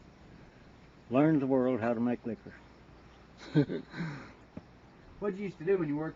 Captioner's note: chuckles